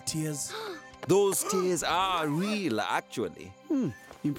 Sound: gasping

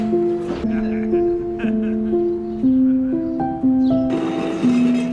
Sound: police officer laughing

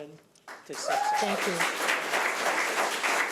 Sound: audience clapping

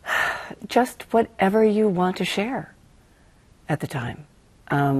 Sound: sighs

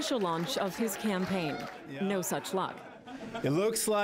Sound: applause

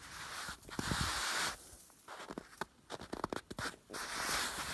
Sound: shoes slide, scrape

